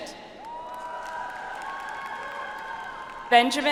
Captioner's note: audience applauds